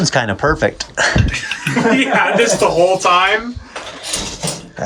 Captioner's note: laughs